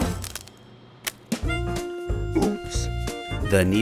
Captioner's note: crack